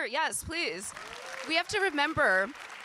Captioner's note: audience applauding and cheering